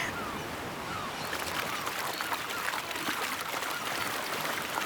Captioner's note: water splashing